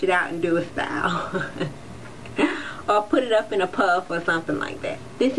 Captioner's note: laughs